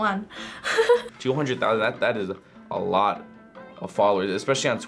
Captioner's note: laughs